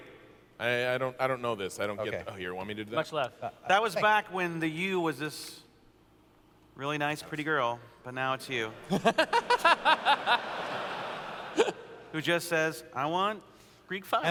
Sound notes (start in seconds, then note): 8.7 laughter